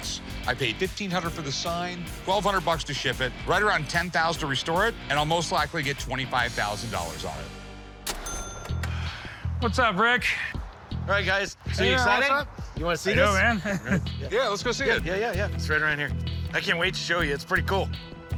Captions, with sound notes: I paid 1,500 for the sign, 1,200 bucks to ship it, right around 10,000 to restore it, and I'll most likely get $25,000 on it. [sighs] What's up, Rick? Alright, you guys. So, are you excited? -You wanna see this? -Yeah, let's go see it. Yeah, yeah, yeah. It's right around here. I can't wait to show you, it's pretty cool.